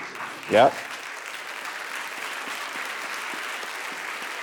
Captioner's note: audience laughing; audience applauding